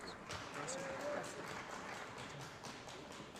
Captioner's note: applause